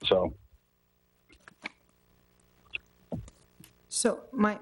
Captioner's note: silence